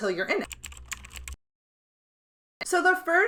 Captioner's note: keystrokes clacking